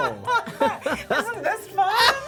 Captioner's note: laughs